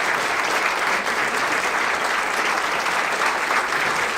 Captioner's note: applause